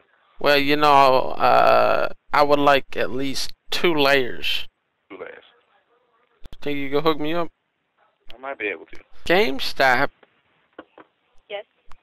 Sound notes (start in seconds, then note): none